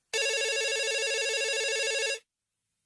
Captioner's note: phone ringing